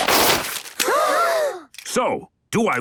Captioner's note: all gasp